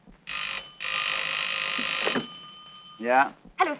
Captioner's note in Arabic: يرن الهاتف